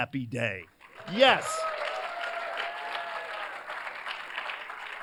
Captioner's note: cheers, applause